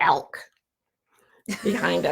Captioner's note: laughs